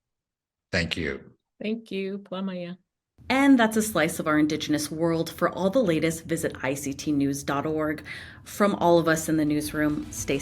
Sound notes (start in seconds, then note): 1.3 speaking in Native language